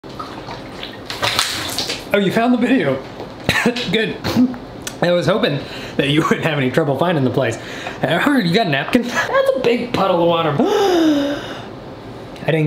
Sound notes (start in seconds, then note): 0.0 water splashing; 3.4 man coughs; 10.6 man gasps